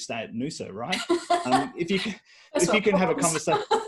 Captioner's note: laughs